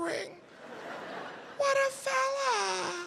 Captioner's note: audience laughing